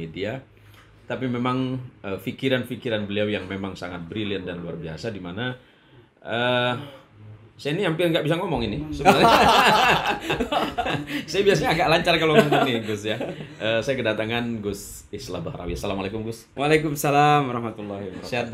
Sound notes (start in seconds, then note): 9.0 laughs